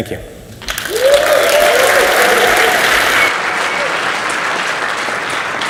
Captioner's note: audience cheers and applauds